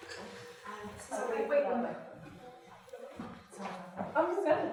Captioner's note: audience chattering